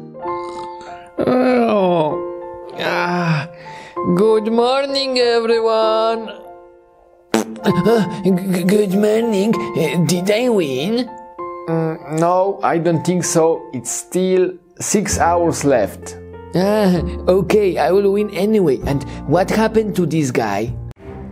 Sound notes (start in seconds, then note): 0.1 bright music; 7.3 farting; 21.1 spooky music